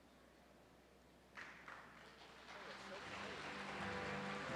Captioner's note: audience applauds